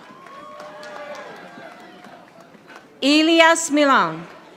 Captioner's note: audience applauding